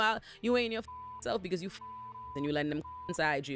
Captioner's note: beep